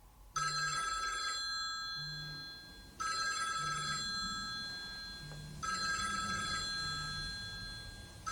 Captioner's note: the phone is ringing